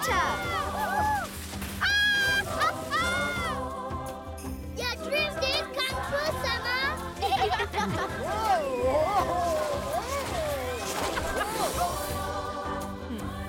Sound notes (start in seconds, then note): 1.8 laughing; 6.5 bleating, laughing; 11.5 laughing